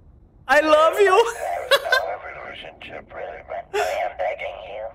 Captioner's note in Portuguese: risos